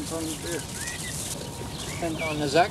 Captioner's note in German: Arbeitsgeräusche